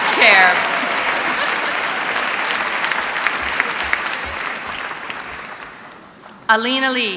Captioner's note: applause